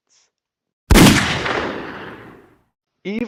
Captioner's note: silenced gunfire; gunshot